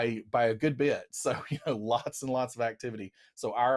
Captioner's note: chuckles